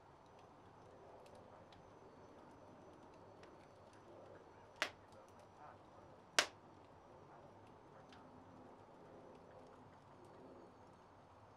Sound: crackling fire

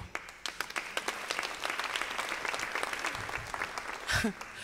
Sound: audience applauds

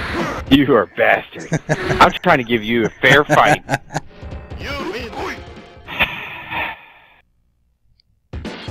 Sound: sighs

